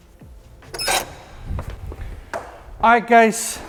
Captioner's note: door squeaking